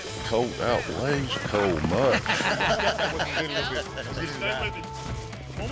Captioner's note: laughter